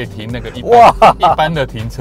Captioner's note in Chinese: 哇哈哈